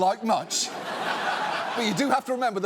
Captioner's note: audience laughs